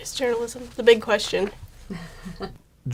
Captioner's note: laughing